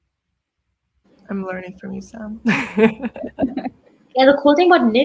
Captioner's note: laughs